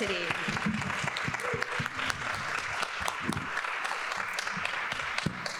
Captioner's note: people clapping